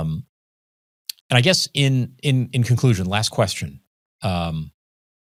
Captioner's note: clicks tongue